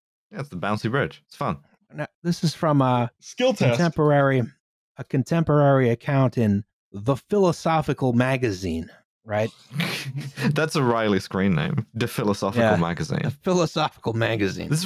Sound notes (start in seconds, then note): 9.5 snickers